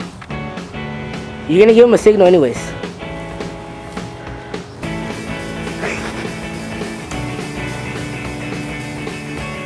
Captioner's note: laughing